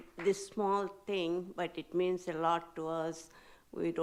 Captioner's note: none